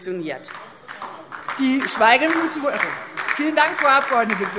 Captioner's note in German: Beifall